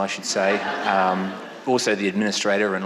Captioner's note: audience laughing